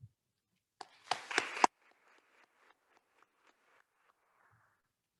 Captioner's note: attendees applauding